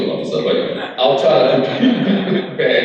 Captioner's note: crowd laughs